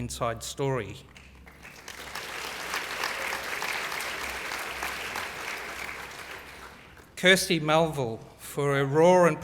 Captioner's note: applause